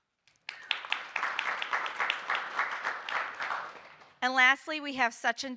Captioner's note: audience applauding